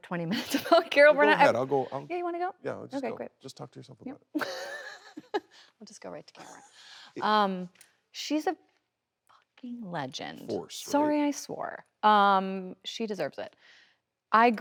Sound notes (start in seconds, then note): 4.3 Kristen laughing